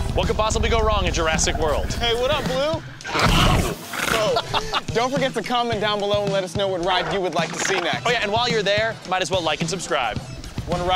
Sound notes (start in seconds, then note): 3.0 Blue roaring